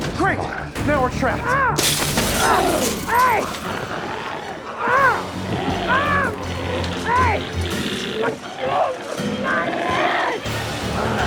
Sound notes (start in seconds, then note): 1.8 glass shatters; 4.7 Tector screaming; 4.7 screams